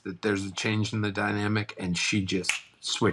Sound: snaps fingers

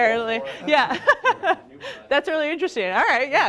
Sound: laughing

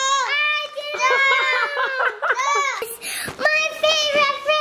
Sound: laughing

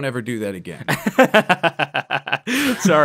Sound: laughs

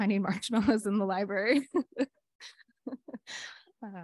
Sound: laughs

